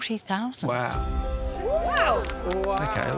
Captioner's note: clapping